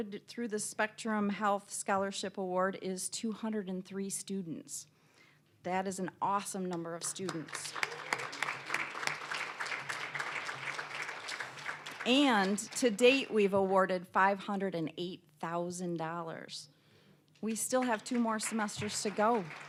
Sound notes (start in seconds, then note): 7.0 applause